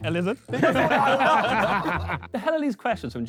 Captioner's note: Sidemen laugh